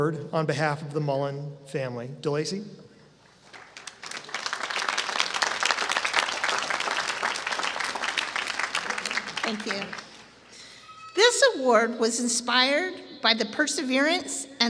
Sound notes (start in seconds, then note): 3.4 applause